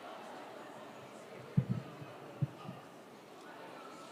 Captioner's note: students chattering